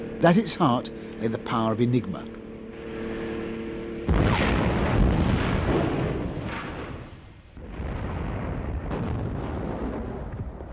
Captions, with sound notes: At its heart, lay the power of Enigma. (bombs exploding)